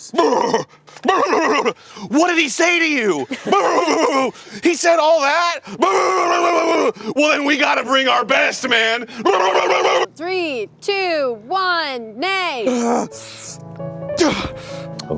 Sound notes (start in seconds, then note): 0.2 george blusters excitedly; 3.3 george blusters horsily